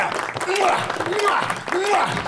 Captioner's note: applause